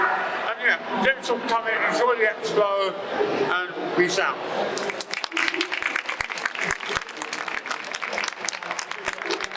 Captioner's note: applause